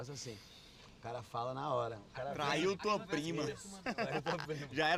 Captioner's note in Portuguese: risada